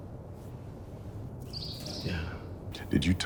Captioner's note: bird chirping